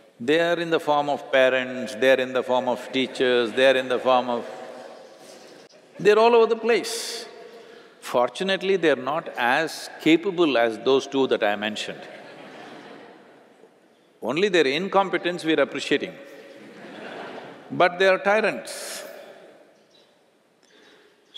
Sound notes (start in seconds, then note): 12.0 laughter; 16.4 laughter